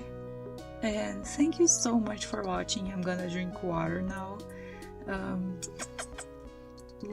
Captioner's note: kiss noises